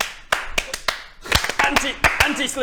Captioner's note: clap clap clapclapclap; clapclapclapclap clap clap